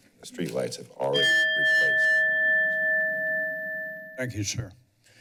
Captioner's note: bell rings